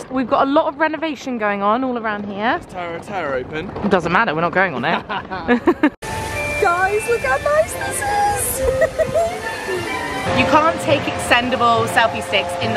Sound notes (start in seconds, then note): 4.8 both laugh; 8.4 giggles